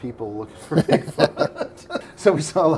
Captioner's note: laughing